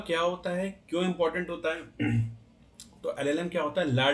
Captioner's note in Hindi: गला साफ़ करने की आवाज़